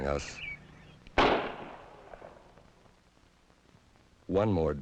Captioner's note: gunshot exploding